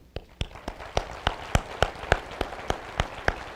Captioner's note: applause